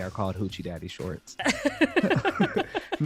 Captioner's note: laughter